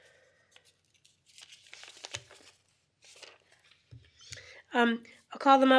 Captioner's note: papers flipping